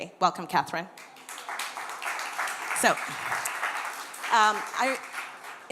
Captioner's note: applause